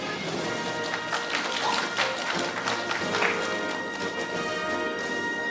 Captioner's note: audience applauding; orchestral music